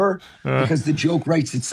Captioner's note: chuckles